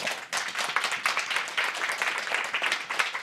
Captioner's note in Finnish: Yleisö antaa aplodit